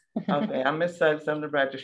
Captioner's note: laughs